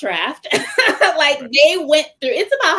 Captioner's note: laughter